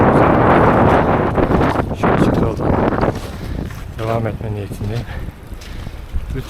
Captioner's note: wind sound